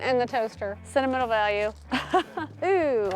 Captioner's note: laughs